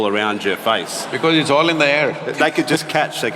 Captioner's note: laughter